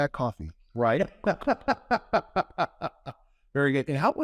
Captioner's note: laughs